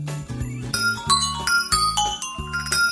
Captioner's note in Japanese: スマホの着信メロディー